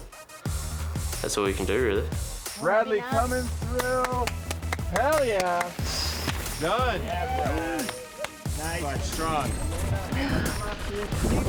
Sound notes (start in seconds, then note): 3.8 claps